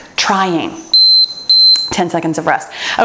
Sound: timer beeps

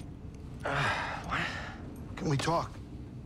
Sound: sigh

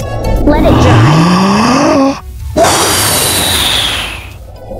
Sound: light music; wind blowing noise

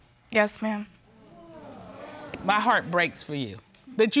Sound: audience exclaiming

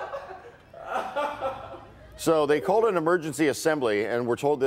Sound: laughter

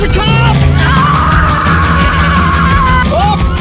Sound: screaming

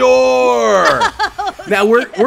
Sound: laughing

